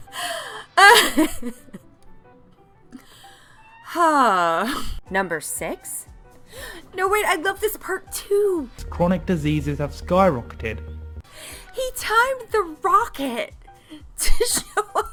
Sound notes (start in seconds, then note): 4.6 sighs